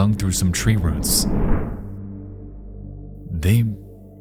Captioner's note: object scrapes and thuds